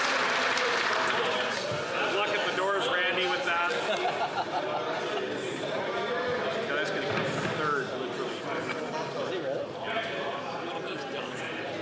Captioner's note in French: applaudissements